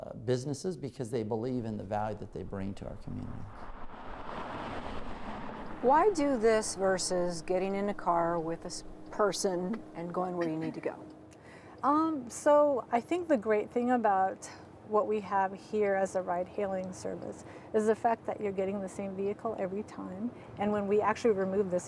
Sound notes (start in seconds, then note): 3.6 wind whooshing